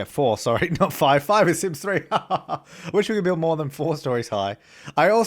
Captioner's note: laughter